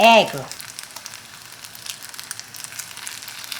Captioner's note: food sizzling